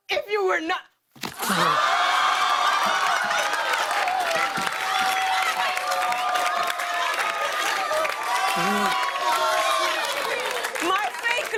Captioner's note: cheers and applause